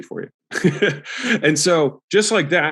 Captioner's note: Alex laughs